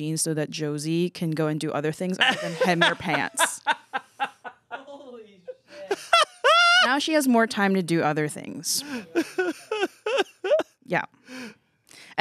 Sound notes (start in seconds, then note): 3.7 laughs